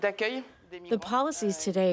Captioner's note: through translator